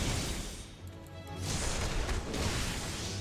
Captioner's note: gunshots